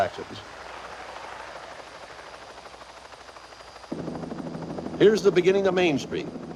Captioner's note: helicopter whirring